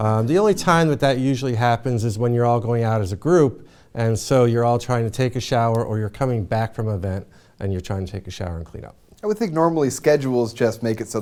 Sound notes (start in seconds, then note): none